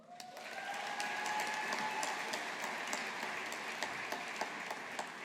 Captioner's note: audience applauding